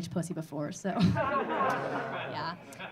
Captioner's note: audience laughing